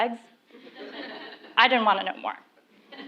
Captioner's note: laugh; laugh